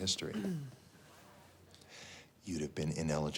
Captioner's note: Spencer clears throat